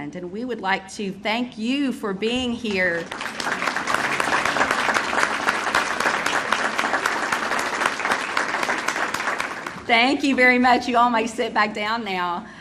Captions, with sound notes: and we would like to thank you for being here. (audience applauding) Thank you very much. You all may sit back down now.